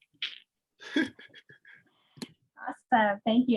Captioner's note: laughing